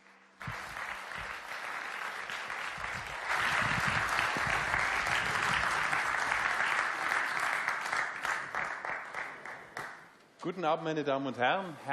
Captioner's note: applause